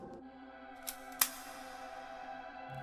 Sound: gun cocking

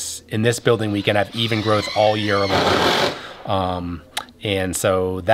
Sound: machine whirring

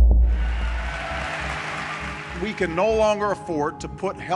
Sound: cheering and applauding

